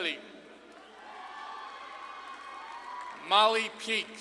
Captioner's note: audience claps and cheers